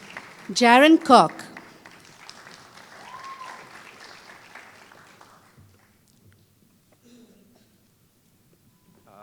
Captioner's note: applause